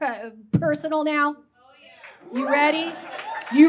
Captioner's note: yeahs and whoops from audience